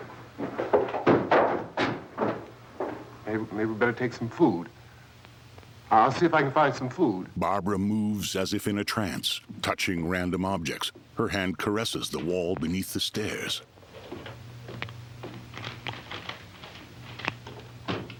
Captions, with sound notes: Maybe we better take some food. I'll see if we can find some food. [footsteps] [cupboards clattering]